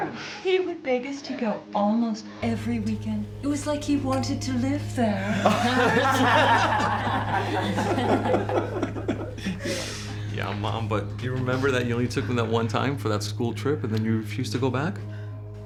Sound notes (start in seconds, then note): 5.2 laughter